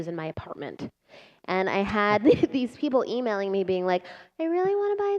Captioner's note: laughter